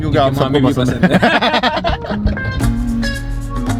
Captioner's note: laughs